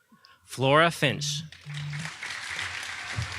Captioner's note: audience applauding